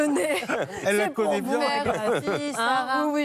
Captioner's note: laughter